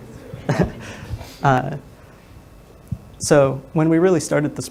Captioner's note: microphone static drowns out speaker